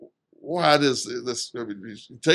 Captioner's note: speaks faintly